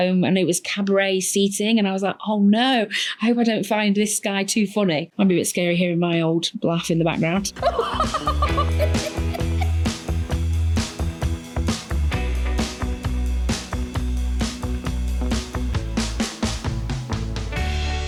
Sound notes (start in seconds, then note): 7.2 upbeat music; 7.6 raucously laughing